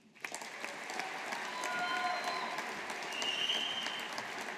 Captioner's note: audience applauding